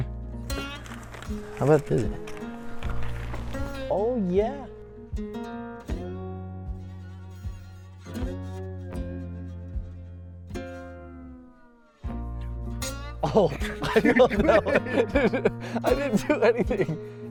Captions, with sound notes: How bad is it? Oh, yeah. Oh! Oh, no! (laughing) I didn't do anything.